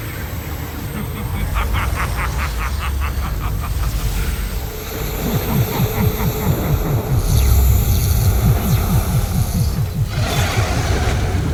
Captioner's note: cackling; powerful whoosh-crackle; cackling continues; guttural roar